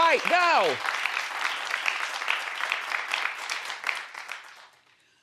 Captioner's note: crowd applauding